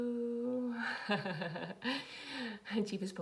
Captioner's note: laughs